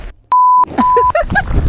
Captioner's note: beep